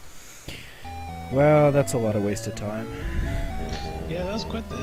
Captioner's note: long sigh